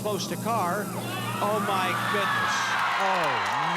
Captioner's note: cheers and applause